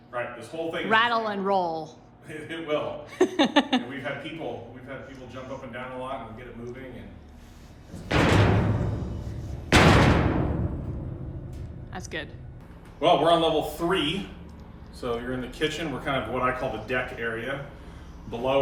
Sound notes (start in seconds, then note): 3.2 laughs